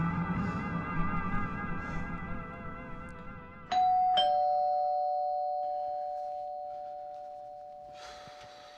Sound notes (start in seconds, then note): 2.0 intense music ends; 3.7 doorbell rings